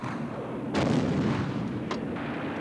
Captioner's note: explosion